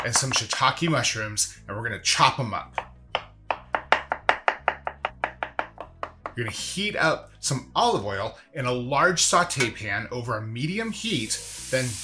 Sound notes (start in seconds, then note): 2.7 knife chopping